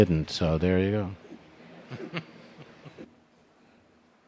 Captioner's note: chuckles